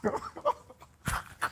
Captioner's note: laughing